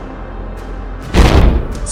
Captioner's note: boom